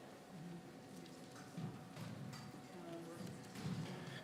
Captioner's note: none